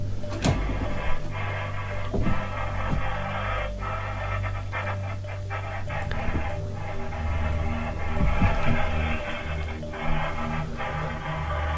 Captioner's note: strange baby monitor sound